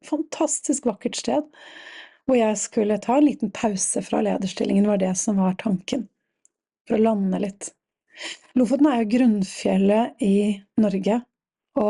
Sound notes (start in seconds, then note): none